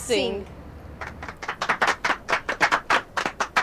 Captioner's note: audience clapping